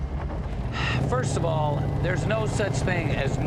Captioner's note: sighing